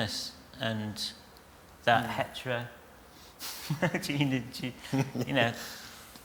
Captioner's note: laughs